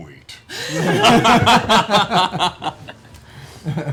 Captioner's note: laughter